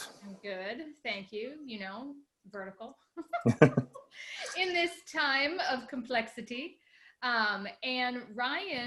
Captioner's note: laughs